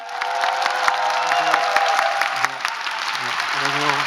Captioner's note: applause